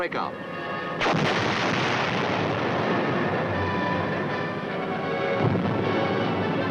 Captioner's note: dramatic music; bombs exploding